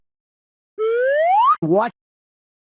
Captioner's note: cartoon slide whistle